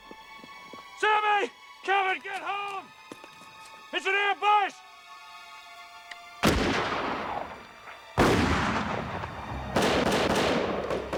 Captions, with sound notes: SAMMY, KEVIN, GET HOME! IT'S AN AMBUSH! [gun firing] [guns firing]